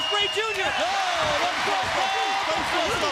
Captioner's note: Tony exclaims